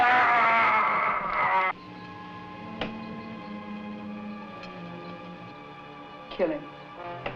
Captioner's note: shouting